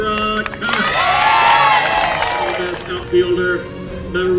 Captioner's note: cheering